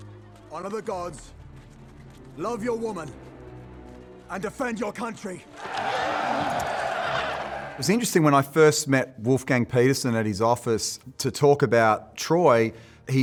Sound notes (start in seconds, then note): 5.5 soldiers cheering